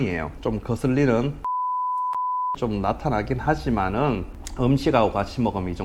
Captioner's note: beep beep